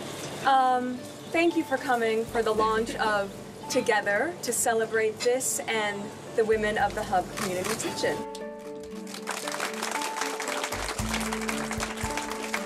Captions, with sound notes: - Thank you for coming for the launch of "Together", to celebrate this and the women of the Hubb Community Kitchen. (audience clapping)